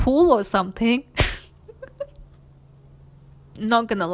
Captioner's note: laughs